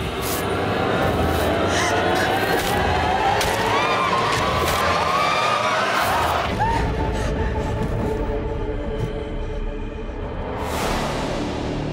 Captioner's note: breathing heavily